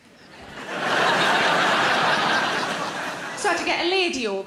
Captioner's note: audience laughing